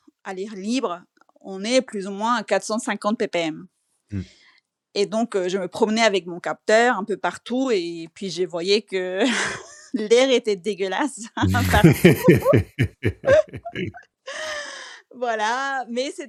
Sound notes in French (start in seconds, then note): 11.4 rires